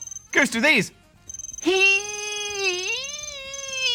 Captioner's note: dials phone